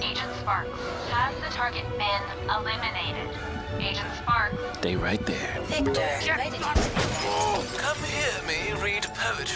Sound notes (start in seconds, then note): 6.5 glass breaking